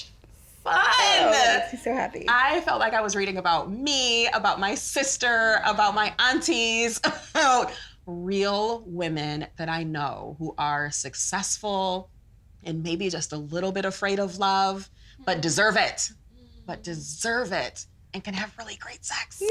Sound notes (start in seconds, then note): 7.3 laughs